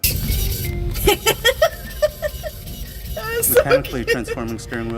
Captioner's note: laughs